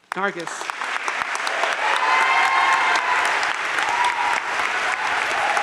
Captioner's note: audience cheering and applauding